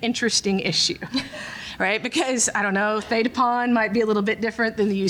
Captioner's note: laughter